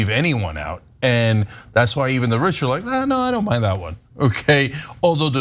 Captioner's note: laugh